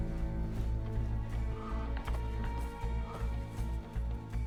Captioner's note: breathing heavily